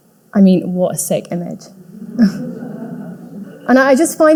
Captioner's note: audience laughing